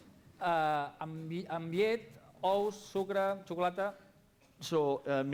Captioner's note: non-english speech